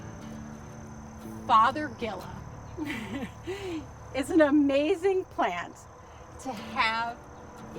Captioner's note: chuckles